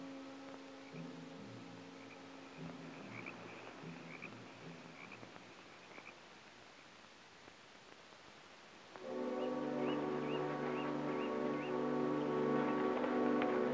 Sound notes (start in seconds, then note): 1.7 gentle music; 5.7 frogs croaking; 9.0 dramatic music